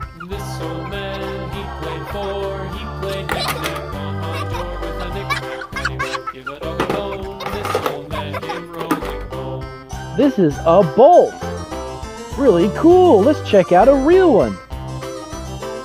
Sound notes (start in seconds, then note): 3.4 toys clatter